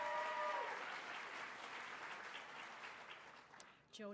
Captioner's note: applause